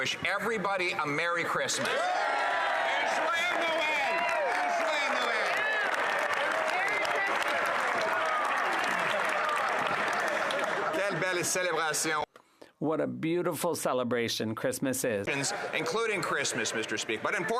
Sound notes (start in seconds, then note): 7.9 some Applause